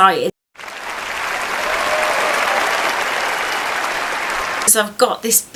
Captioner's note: clapping